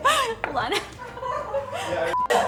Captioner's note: laughter